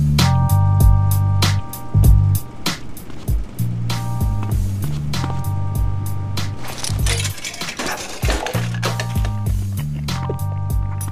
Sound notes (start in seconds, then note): 9.3 burps